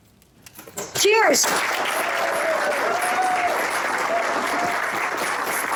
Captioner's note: cheers, applause